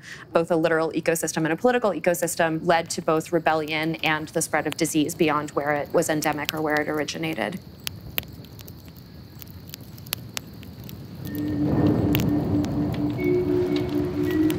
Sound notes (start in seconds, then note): 8.5 fire crackling; 8.5 mellow music